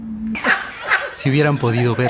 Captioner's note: laughs